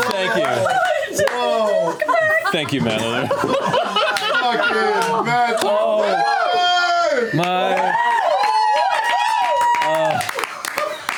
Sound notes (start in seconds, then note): 8.1 cheering